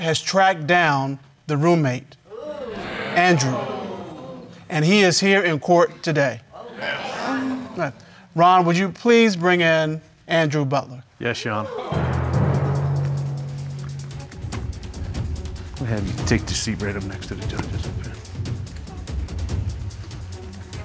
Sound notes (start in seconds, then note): 6.5 audience exclaims